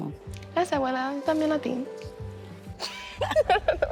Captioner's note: speaking Spanish; both laughing